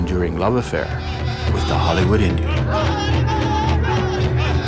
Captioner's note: chanting